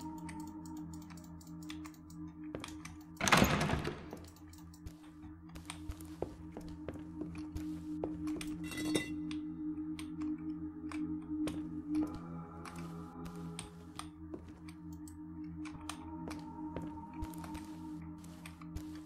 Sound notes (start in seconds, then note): 3.2 door Rattles